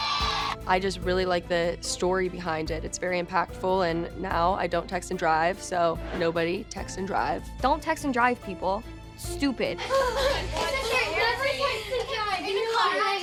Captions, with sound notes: I just really like the story behind it. And it's very impactful, and now I don't text and drive. So nobody text and drive. Don't text and drive, people. Stupid. [children chattering] Never text and drive in the car.